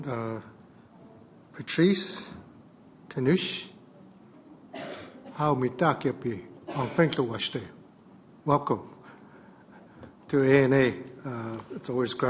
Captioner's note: native American language